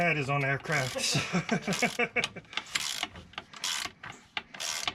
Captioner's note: laughs